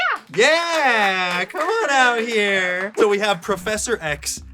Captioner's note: clapping in background